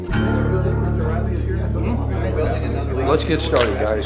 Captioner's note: people chattering